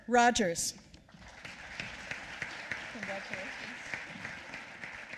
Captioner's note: applause